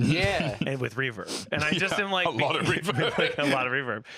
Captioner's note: laughing